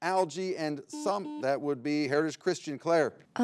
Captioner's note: button blips